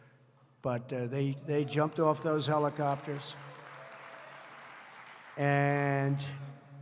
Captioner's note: applause